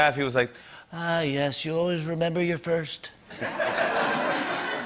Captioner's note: As Trump; laughter